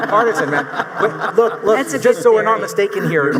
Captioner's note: audience laughing